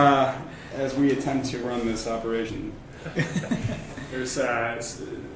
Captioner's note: laughter